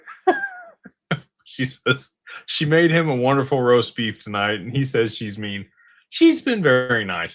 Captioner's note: laughter